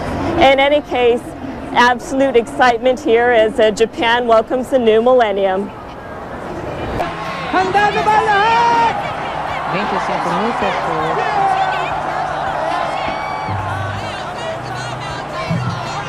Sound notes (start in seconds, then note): 7.2 screams of excitement